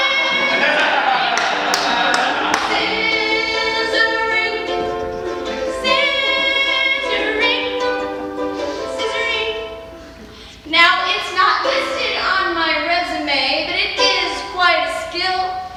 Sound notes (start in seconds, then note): 0.1 laughs